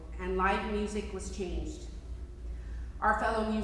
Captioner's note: none